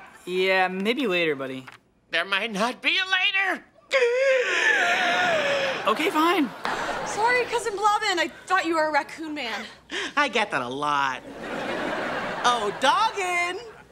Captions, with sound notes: Yeah, maybe later, buddy. There might not be a later! [wheezing] OK, fine! Sorry, cousin Blobbin, I thought you were a raccoon man! I get that a lot. Oh, doggin!